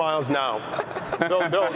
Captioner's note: chuckling